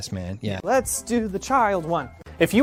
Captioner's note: chanting